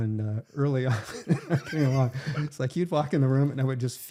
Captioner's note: laughing